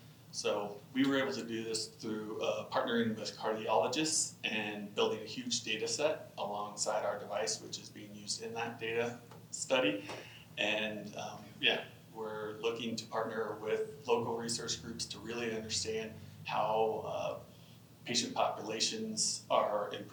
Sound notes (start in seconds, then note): none